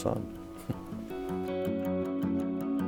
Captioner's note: chuckles